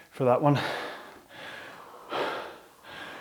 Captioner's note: exhales